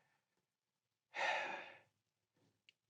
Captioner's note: sighs